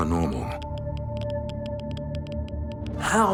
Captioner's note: meter crackling